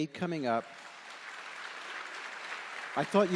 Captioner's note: audience applauding